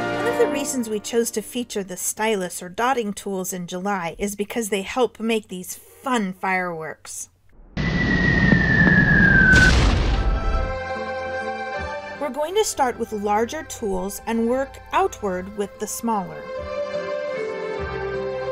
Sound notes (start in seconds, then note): 7.7 firework whistles and explosions